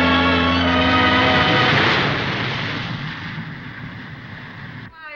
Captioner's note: water rushing